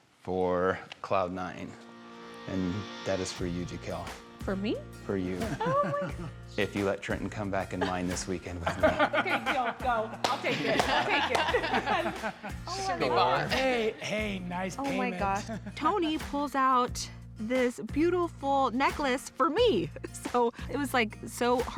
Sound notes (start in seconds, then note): 12.0 everybody laughing